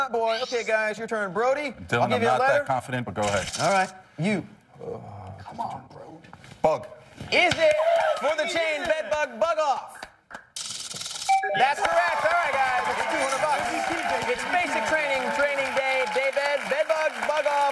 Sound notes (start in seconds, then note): 10.6 chime